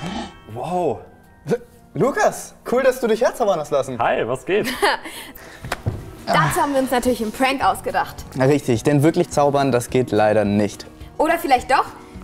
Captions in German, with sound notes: Hhh! Wow! Lukas! Cool, dass du dich herzaubern hast lassen. Hi. Was geht? (lacht:) Dazu haben wir uns einen Prank ausgedacht. Richtig. Denn wirklich zaubern geht leider nicht. Oder vielleicht doch?